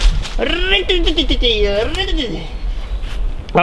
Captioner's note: makes chainsaw noises